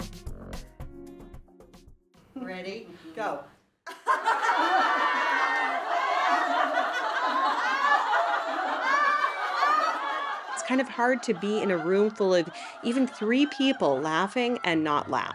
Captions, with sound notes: Ready? Go. [burst of group laughter] It's kind of hard to be in a room full of even three people laughing and not laugh.